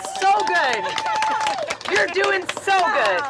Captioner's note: applause